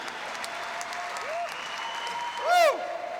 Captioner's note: cheers and applause